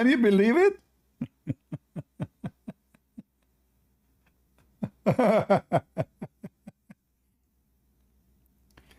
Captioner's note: Ketawa